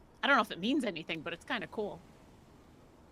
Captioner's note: none